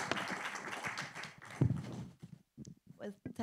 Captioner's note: audience applauding